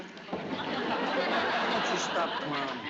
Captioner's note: knocking on door